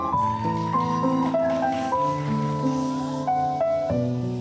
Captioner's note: cheering